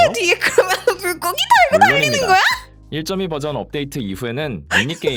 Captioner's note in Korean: 웃음